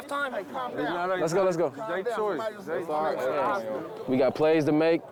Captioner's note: team chatters